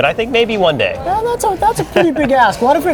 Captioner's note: laughing